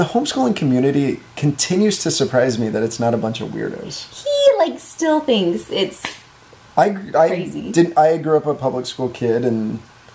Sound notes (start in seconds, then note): none